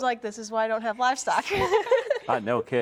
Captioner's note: laugh